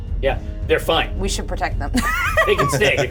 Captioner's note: chuckles